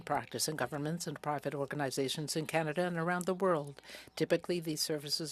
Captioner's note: speaking French